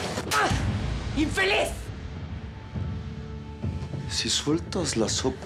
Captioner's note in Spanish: bofetada